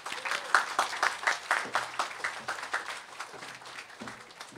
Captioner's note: applause